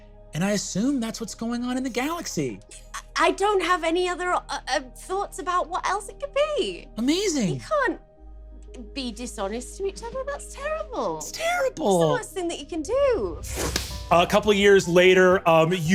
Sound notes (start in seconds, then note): 13.7 claps